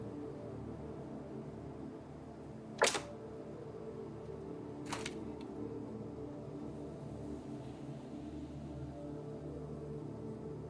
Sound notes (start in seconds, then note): 2.8 snapping tree branch; 7.5 slow solemn music